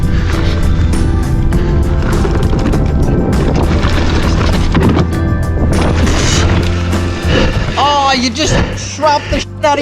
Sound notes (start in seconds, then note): 0.0 bike tires on ground